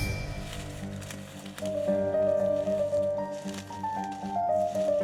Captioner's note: foliage rustling